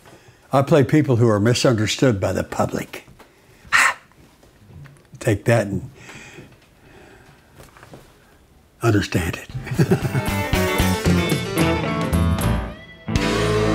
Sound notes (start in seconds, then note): 9.5 laughs; 9.6 upbeat music